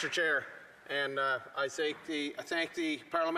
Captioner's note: applause